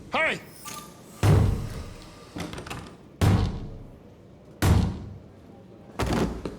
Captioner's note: banging continues; body thuds